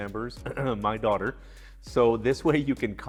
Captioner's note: clears throat